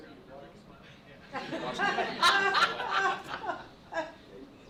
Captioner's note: murmuring, laughter